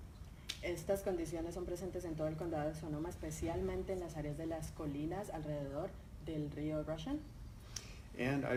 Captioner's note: speaking in Spanish